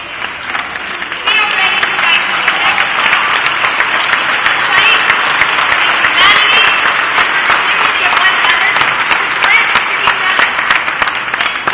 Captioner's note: applause